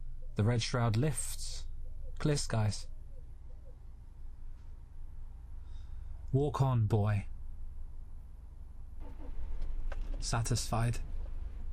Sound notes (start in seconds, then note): 8.8 car engine starts